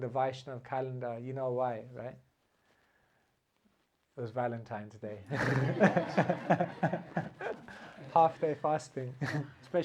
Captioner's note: laughter